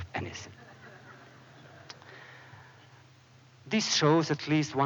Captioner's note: laughter